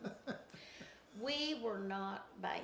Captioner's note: laughs